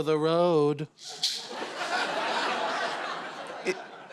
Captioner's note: maracas shake; laughter